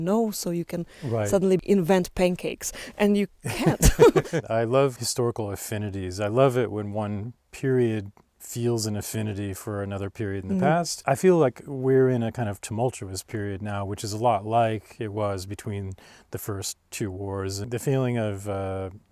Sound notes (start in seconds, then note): 3.4 laughs